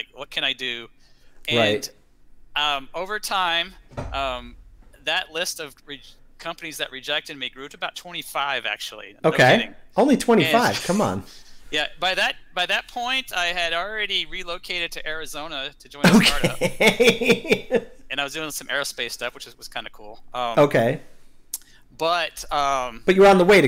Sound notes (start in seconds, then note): 16.0 laughter